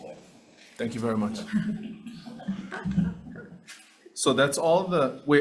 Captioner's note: people laugh